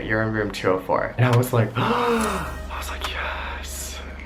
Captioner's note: gasps loudly